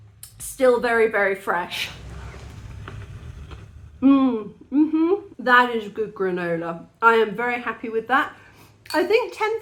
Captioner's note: crunch